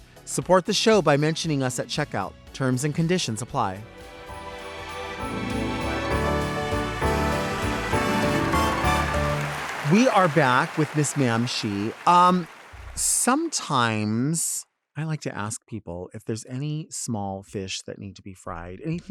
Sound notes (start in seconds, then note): 3.8 festive music continues; 9.4 audience applauds